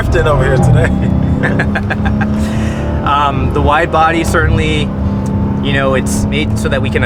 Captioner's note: laughs